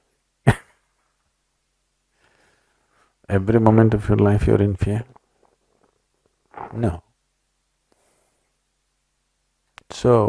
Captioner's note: laughs